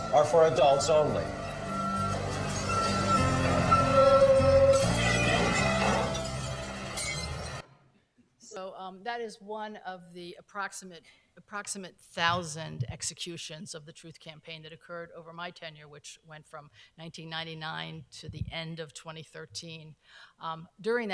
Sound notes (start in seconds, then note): 1.6 glass shattering